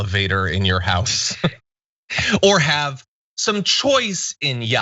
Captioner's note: laugh